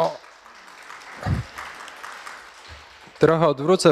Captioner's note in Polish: oklaski